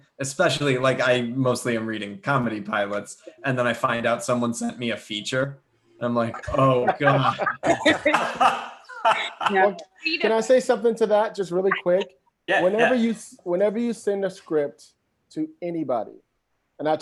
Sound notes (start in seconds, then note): 6.3 laughs